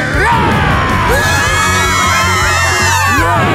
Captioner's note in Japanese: さけび声